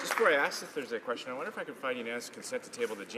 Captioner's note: some applause